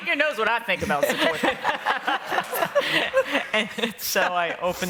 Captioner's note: laughter